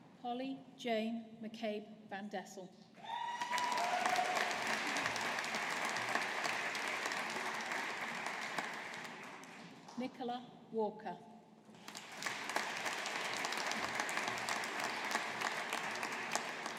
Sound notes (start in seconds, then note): 3.1 audience applauding; 11.8 audience applauding